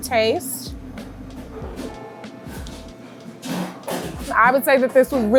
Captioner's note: pots and pans clanging